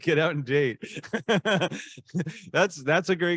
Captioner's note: laughing